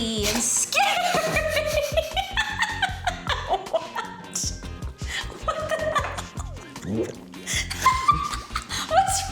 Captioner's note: laughter bursts